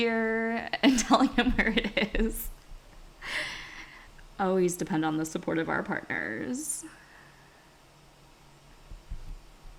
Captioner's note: laughs